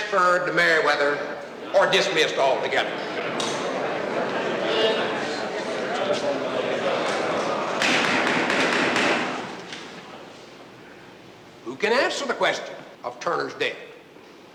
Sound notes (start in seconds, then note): 3.8 crowd murmuring; 7.8 banging